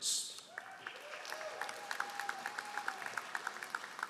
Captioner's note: all applauding